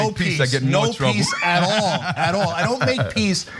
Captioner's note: laugh